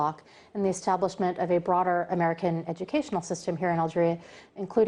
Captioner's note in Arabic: تتحدث الإنجليزية